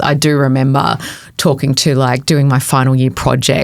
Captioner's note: none